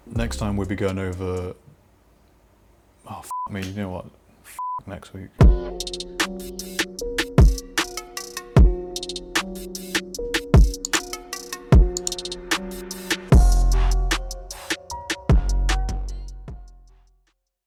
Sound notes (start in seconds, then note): 3.3 beep; 4.6 beeps; 6.0 rhythmic music